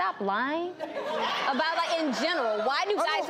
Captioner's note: audience laughs